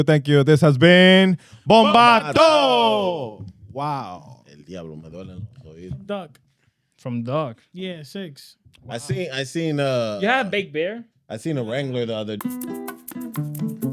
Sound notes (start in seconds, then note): 5.1 speaking In Foreign Language; 12.3 upbeat Music